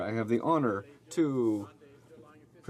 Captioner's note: speaking French